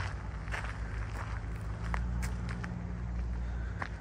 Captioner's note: walking on gravel